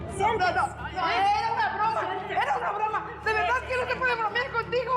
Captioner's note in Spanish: gritos y exclamaciones